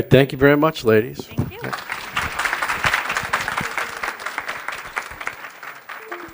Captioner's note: applause